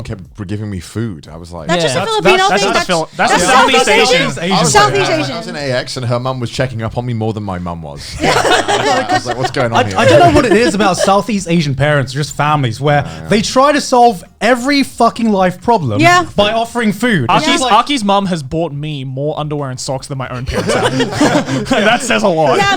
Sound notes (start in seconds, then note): 8.0 all laughing